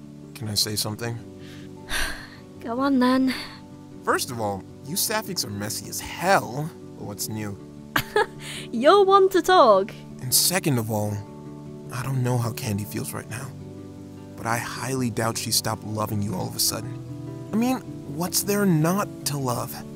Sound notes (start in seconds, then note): 1.4 sighs; 7.9 chuckles